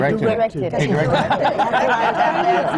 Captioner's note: laughter